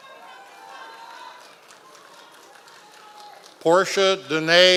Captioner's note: members of the audience cheering